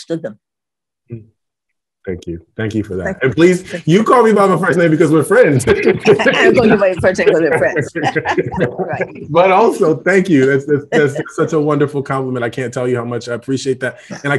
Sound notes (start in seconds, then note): 6.1 laughs